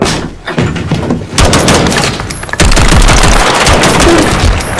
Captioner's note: door breaks open; gunfire; blood splatters